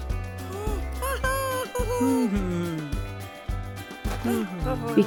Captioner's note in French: Cri de joie de l’animal